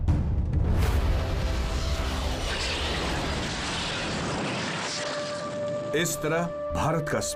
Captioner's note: rocket launching